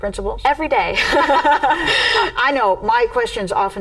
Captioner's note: laughing